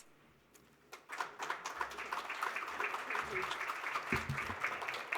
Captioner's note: audience applauding